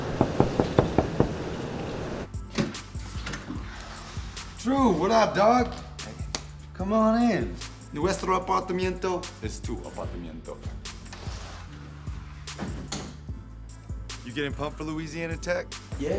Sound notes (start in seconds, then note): 0.0 knocking on door; 2.7 door rattling; 8.1 speaking foreign language